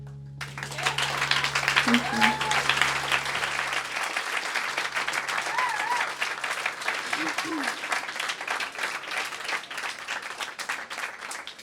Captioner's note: applause